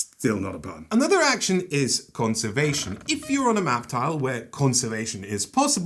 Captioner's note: penguin noises